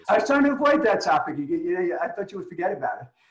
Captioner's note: laughs